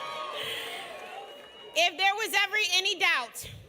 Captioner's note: applause